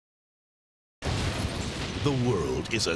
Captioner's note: fire crackling